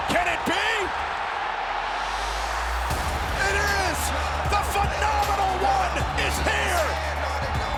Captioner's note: applause